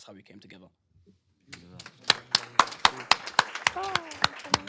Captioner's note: applause